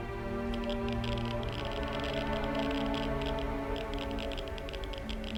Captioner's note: static pops